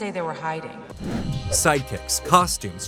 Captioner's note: whoosh